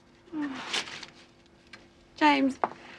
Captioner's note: Irene groans softly